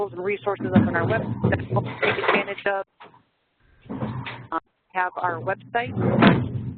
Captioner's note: feedback